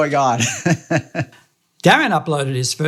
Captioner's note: laughing